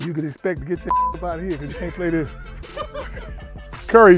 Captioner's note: beep